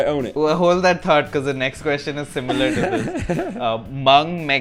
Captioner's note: laughter